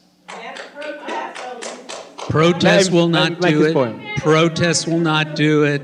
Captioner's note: shouting